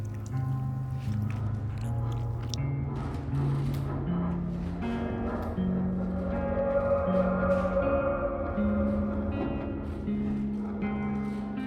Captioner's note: airplane flying over